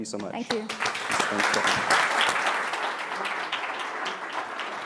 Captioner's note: applause